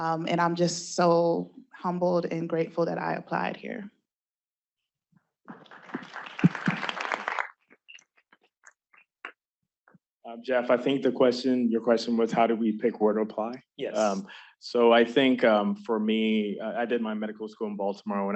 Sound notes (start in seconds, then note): 5.5 applause